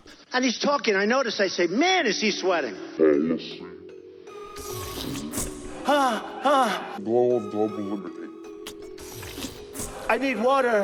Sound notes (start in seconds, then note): 3.2 distorted voice; 6.2 heavy breathing; 8.6 slurping